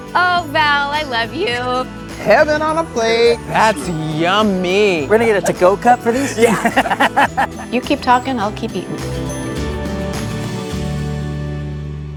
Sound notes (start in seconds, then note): 6.0 laughing